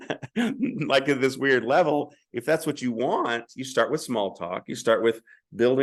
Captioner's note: brief laughter